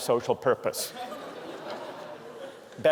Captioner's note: laughter